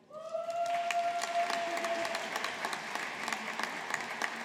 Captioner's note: audience applauding